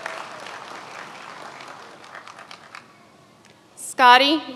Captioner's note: many applauding